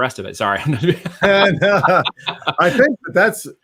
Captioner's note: all laughing